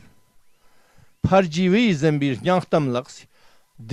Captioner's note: tibetan